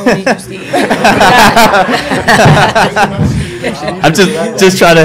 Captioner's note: reporters laugh